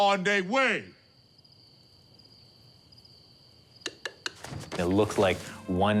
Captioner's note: crickets chirping